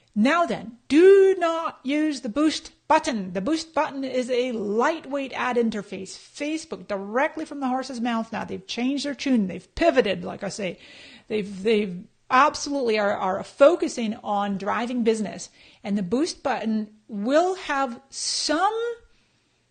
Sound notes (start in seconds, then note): none